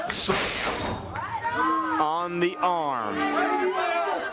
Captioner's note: crowd chatter